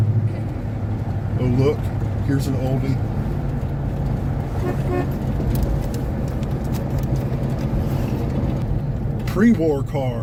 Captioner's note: horn honks twice